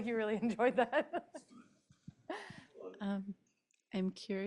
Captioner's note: laughter